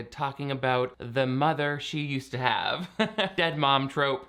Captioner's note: chuckling